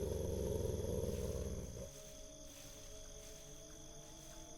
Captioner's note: growling